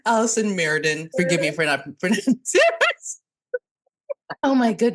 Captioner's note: burst laughing